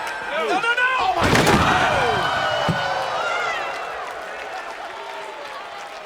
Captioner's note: applause